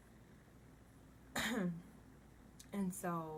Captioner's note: clears throat